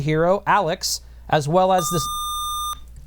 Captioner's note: buzzer